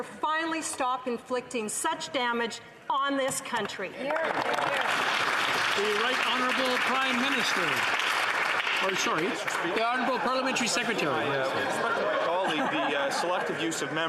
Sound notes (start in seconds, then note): 7.3 some Applause